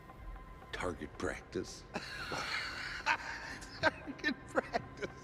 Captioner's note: laughs